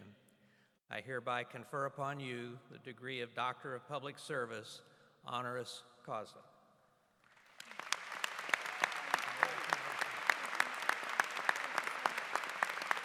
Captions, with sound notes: the College of William and Mary in Virginia, I confer upon you the degree of doctorate of public service. (Applause) >>